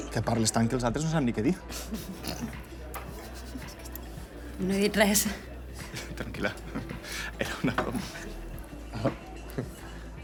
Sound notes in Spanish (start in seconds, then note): 1.7 Se ríen